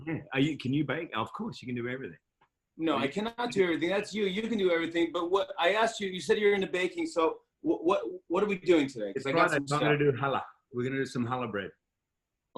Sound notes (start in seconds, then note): none